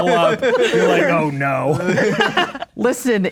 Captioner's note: players laughing